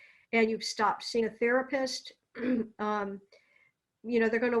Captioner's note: clears throat